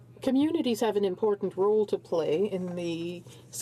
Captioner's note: speaking in french